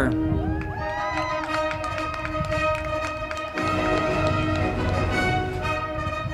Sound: crowd clapping and cheering; band music

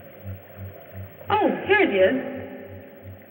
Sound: none

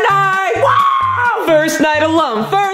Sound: screams cheerfully

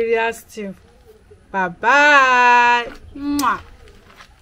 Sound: kisses

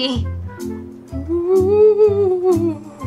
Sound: ghost Wailing

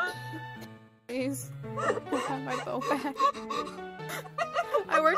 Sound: hyperventilating

